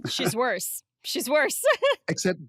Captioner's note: laughs